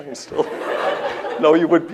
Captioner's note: laughter